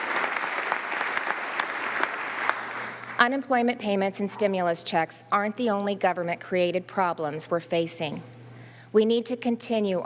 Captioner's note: applause